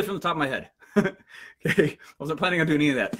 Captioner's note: laughs